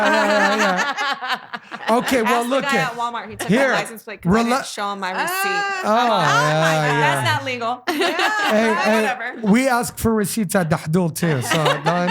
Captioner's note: laughing; laughing